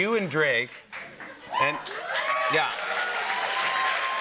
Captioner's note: cheers and applause